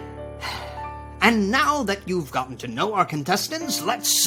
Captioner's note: sighs